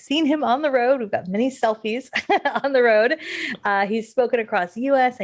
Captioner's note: laughs